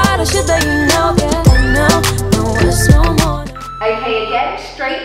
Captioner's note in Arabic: صوت المؤقت